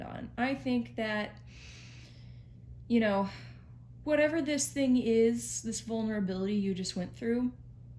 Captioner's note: takes a breath